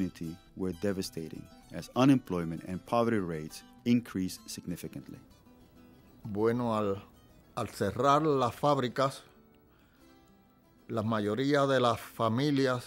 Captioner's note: speaking in spanish